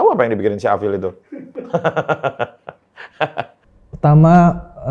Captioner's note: laughter